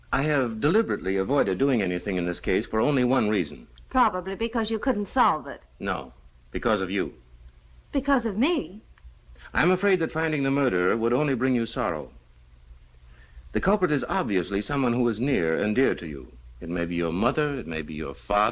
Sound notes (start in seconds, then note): none